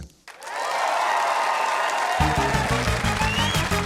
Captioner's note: cheering, applause